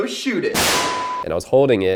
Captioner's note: loud banging noise